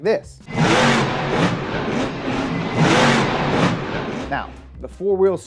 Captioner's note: engine revving